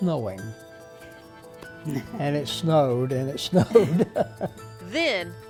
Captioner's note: laughs